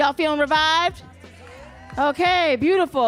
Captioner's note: audience cheering